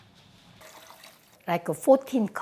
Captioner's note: broth sloshing